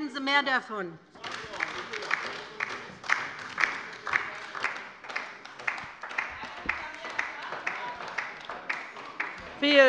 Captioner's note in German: Beifall bei der LINKEN